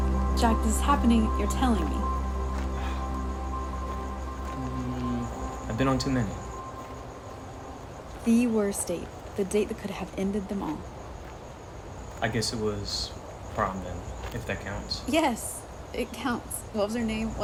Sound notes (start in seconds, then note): 2.8 Jack sighs